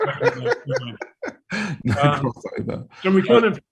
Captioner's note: laughs